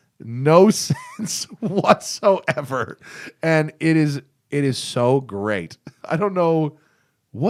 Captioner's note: laughter